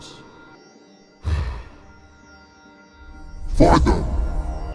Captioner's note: sigh